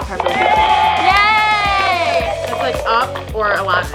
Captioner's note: applause